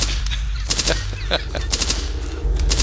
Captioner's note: laughs